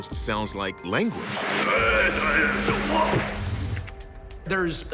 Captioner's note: chatter